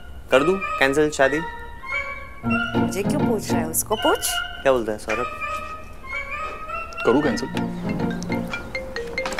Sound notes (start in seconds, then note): 6.0 Phone ringing